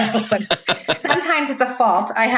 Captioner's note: laughing